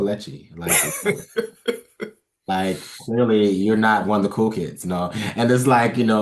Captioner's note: laugh